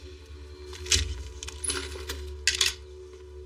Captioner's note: door r opens